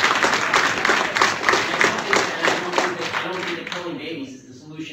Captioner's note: applause